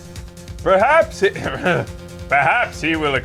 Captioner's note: clears throat